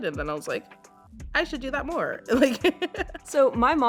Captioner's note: laughing